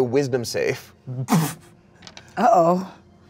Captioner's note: laughs